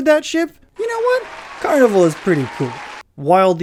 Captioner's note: applause